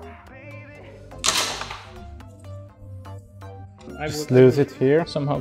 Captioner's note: branch clatters